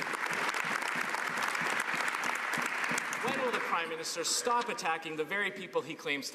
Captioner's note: some Applause